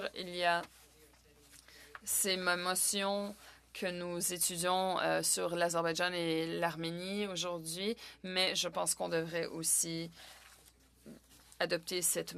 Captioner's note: speaking French